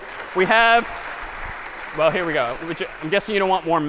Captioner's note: applause